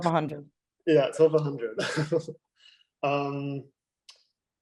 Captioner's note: laughing